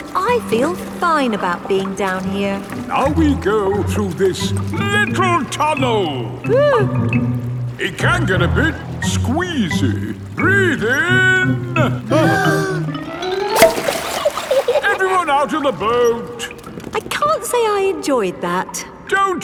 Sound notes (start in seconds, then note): 6.8 whimpers; 12.1 breathing in